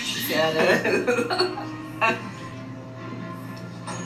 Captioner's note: laughs